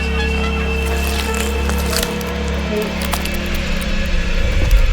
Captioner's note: flesh squishing